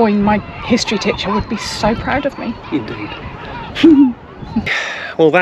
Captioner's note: laughter